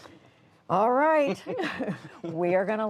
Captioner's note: laughter